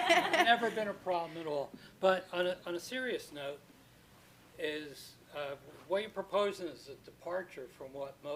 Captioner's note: laughter